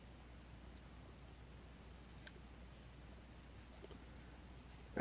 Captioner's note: mouse clicking